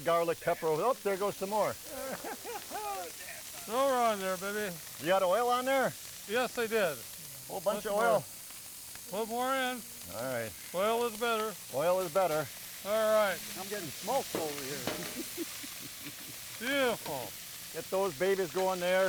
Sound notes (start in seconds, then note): 1.8 laughing; 15.0 laughing